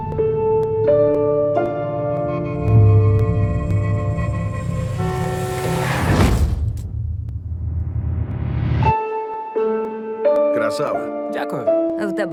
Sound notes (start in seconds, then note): 2.4 music distorts; 4.8 brakes screech; 4.8 horn blares; 8.7 somber music continues